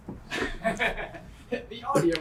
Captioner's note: laughing